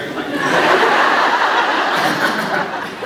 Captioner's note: laughs